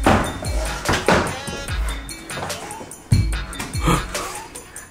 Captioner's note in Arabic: جلجل اللوحة